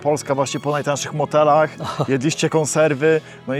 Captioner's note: laughter